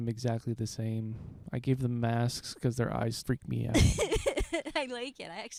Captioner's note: laughing